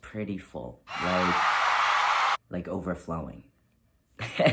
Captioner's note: crowd cheering noises